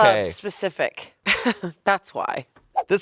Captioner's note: laughs